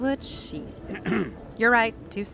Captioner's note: Horatio clearing throat